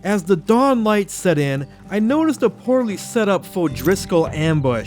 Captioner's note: none